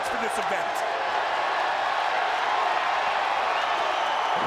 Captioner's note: crowd cheers